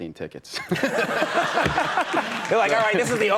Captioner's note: audience laughs